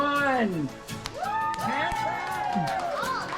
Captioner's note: applause